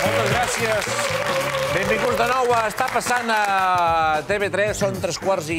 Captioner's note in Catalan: aplaudiments